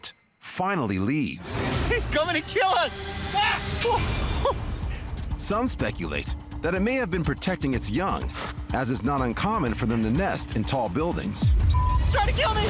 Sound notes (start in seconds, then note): 4.3 man 1 laughs